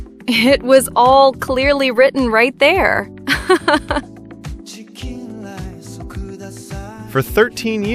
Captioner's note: haha